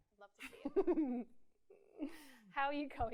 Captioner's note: laughs